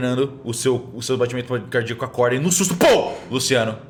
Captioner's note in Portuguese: Pow